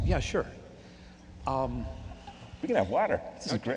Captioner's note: voiceover